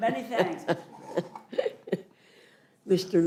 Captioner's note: laughter